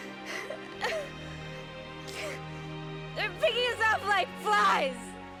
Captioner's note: sobs